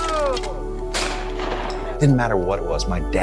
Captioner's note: gunshot blasting